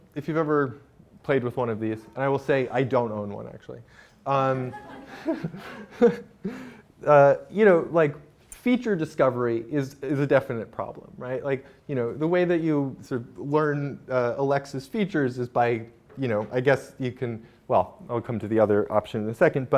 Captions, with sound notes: If you've ever played with one of these, and I will say, I don't own one actually. (laughter) Feature discovery is is a definite problem. The way that you learn, Alexa's features is by, I guess you can, well, I'll come to the other option in a second